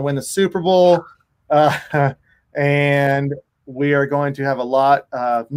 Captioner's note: chuckles